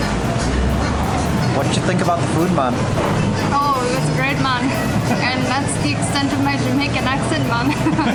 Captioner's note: in a Jamaican accent; laughs